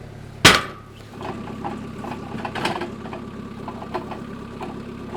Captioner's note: engine revving